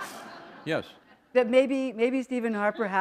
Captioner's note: laughter